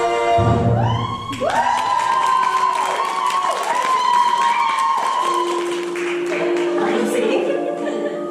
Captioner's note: singing; applause